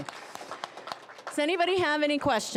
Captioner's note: applause